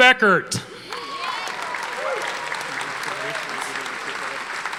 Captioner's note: audience applauding